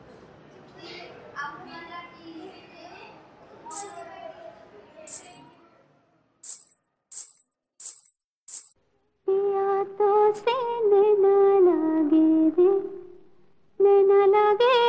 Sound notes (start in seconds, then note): 5.1 jingling sound of anklets; 8.9 practicing on old hindi song